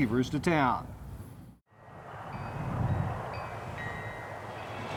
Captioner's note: wind chimes clanging